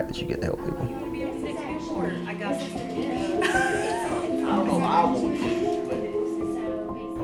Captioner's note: dispatchers chattering and laughing